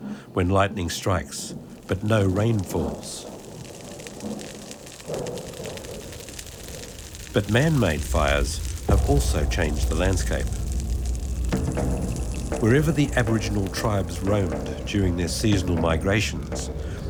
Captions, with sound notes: when lightning strikes, but no rain falls. (fire crackling) But manmade fires have also changed the landscape (dramatic music) Wherever the aboriginal tribes roamed during their seasonal migrations,